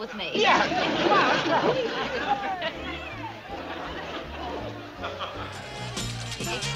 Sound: people talking; dance music; woman laughing

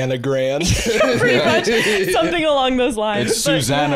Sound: laughs

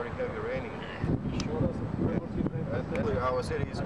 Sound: non-english speech

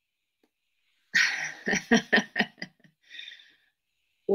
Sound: laughs

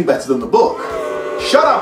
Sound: booing

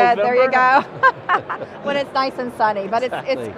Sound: laughing

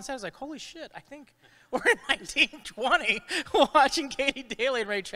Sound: chuckles

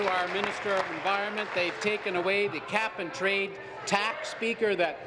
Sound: applause

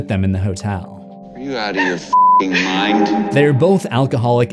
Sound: beep

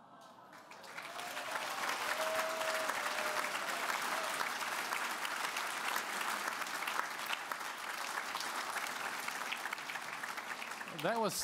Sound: applause

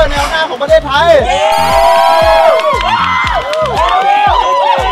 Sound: cheering

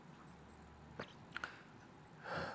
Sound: swallows

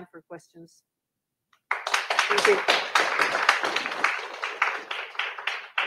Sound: audience applauding

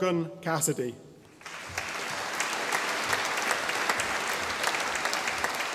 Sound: audience applauding

